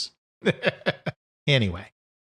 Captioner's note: chuckles